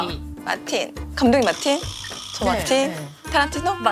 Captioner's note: peeping